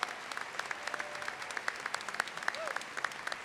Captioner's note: applause